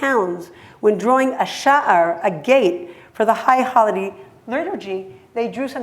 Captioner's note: hebrew